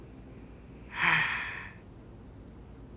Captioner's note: sighing